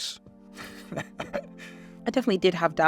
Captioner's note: laughs